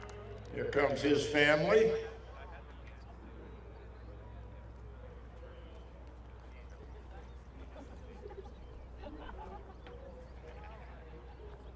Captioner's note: applause